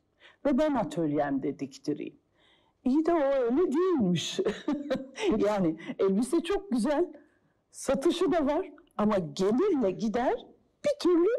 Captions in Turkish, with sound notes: Ve ben atölyemde diktireyim. İyi de o öyle değilmiş. (Gülüyor) Elbise çok güzel, satış da var, ama gelirle gider bir türlü...